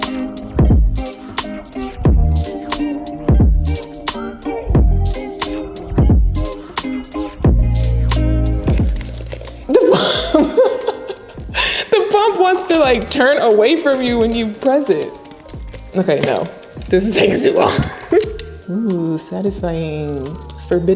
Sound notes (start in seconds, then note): 0.1 upbeat music; 9.6 laughing